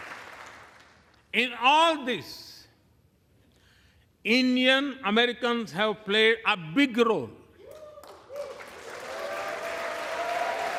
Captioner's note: applause